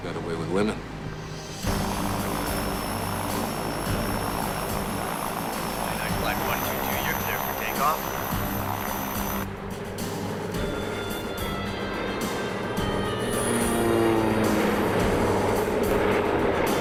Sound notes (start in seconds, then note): 2.3 plane propellers whirring; 2.3 slow dramatic music; 10.3 plane engine roars